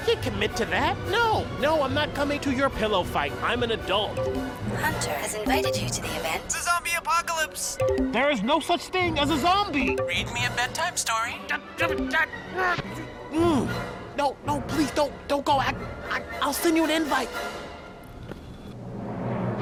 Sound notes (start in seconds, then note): 11.6 mumbling